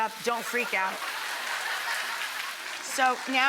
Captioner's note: audience laughing